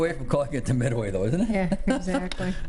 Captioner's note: laughs